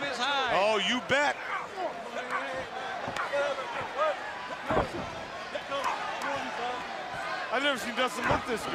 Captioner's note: crowd chatter